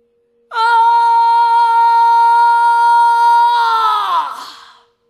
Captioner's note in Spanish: grita